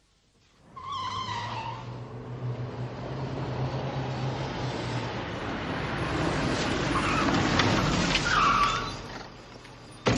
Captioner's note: noise of speeding car